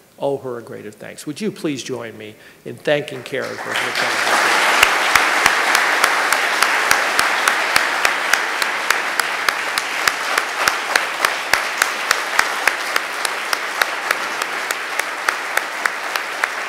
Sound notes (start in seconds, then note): 5.9 applause